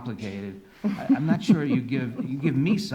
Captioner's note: laughing